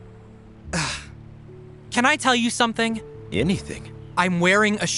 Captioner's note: sighs